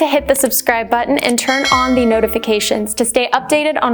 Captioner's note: bell dings